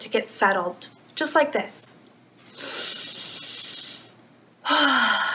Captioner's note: inhales; exhales